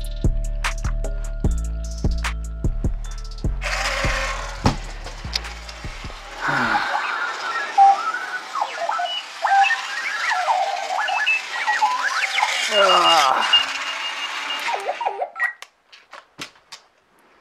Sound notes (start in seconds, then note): 4.0 motor whirs; 6.3 sighs; 8.3 alarm beeps; 12.7 groans; 14.8 alarm beeps